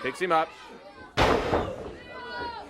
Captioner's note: crowd chatter